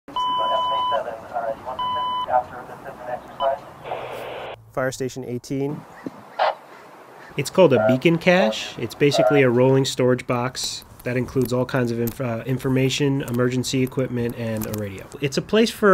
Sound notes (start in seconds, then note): 0.0 beeping, radio noise